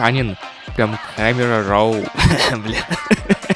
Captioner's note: a parody of American dialect